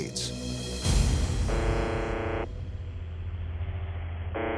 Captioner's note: buzzing